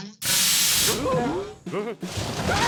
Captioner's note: grunts